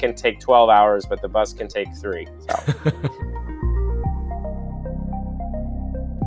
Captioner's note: voiceover